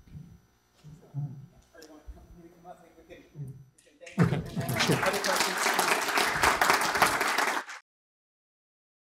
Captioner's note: applause